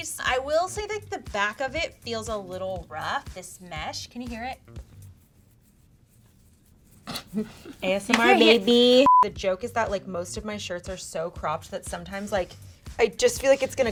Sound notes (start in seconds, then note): 4.8 rubbing; 7.1 laughs; 9.0 beeping